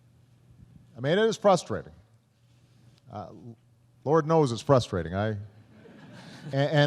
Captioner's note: laughter